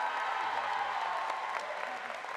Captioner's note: applause